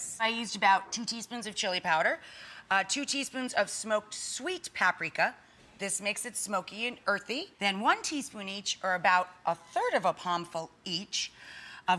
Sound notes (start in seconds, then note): none